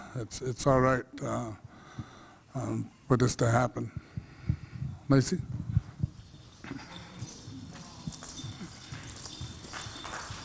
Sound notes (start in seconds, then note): 5.8 beads clinking